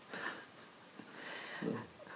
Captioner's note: laughs